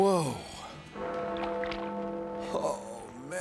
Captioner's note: bell tolls